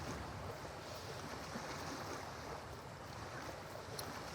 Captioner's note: waves splash